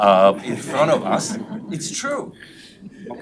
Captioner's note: members laughs